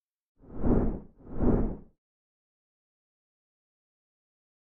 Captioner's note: air whooshing